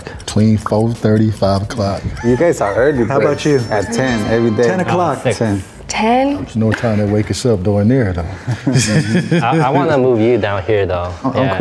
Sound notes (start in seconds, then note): 2.1 rooster crows